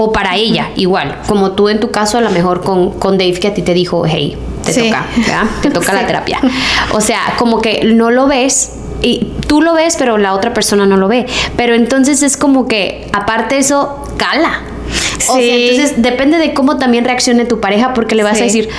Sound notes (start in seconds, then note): 5.0 laughs; 14.9 sighs